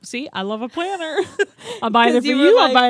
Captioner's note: both laugh